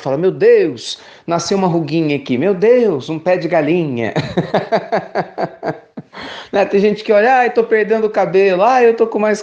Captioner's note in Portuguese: risos